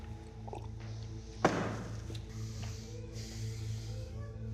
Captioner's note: glass thudding